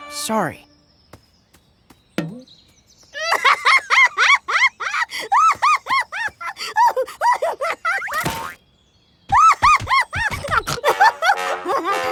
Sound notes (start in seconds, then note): 3.1 laughing hysterically; 5.7 laughing; 8.0 laughing and snorting